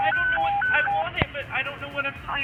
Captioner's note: police siren blaring